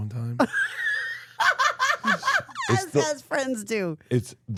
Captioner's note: Steph laughs